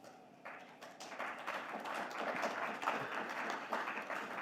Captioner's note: audience clapping